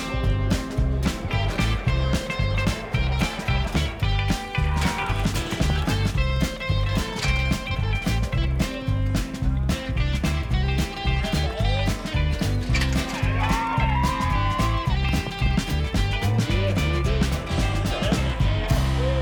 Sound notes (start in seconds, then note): 0.1 announcer speaks over crowd; 4.7 cowboys shouting, metal gate clanging; 8.3 Cowboys whooping; 13.4 spectators cheering